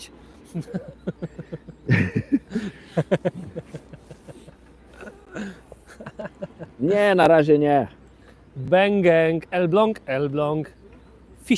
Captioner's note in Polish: śmiech